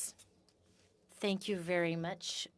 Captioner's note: speaking French